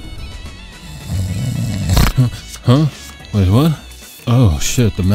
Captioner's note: snoring